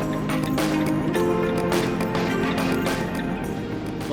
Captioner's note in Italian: Applauso